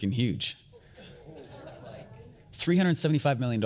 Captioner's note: audience chatter